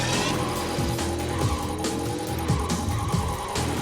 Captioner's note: electronic beeping